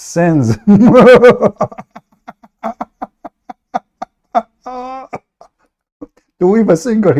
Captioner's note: Ketawa